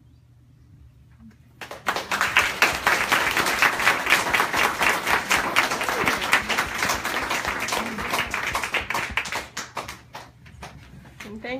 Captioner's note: applause